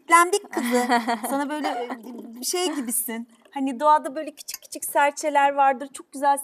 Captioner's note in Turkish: kahkaha